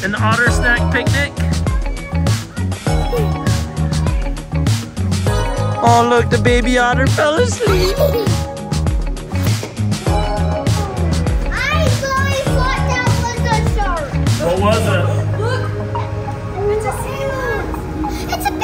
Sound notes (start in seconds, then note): 1.2 gentle music; 7.4 giggling; 9.6 gentle music